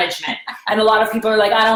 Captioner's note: laughs